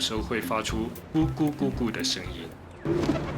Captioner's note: the sound of pigeons